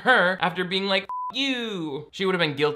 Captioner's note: beep